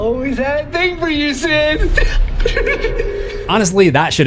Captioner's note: giggles